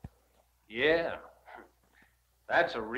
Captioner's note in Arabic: يضحك